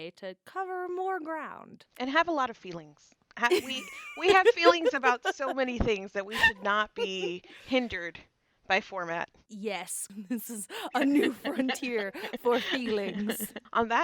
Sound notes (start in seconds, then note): 3.5 laughter